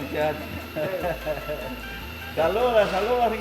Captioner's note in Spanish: risas